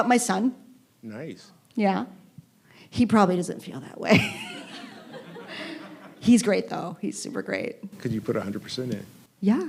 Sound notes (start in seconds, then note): 4.2 laughing